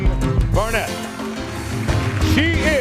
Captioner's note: audience applauding